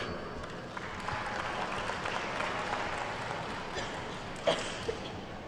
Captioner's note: attendees clapping